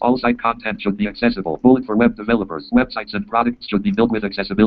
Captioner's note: JAWS speaking